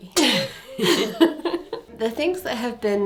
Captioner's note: laughing